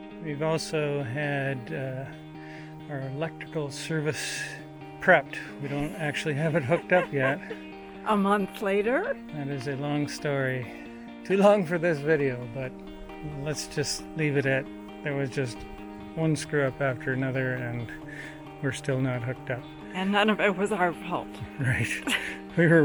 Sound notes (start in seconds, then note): 6.2 laughing